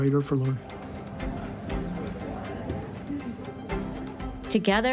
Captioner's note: people chattering indistinctly